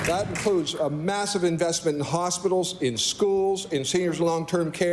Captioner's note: applause